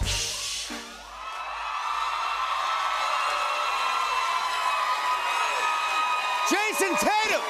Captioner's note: cheers and applause